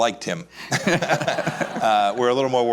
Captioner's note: laughs